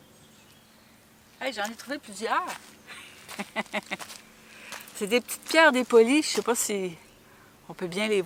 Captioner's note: laughs